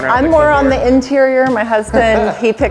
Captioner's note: man laughs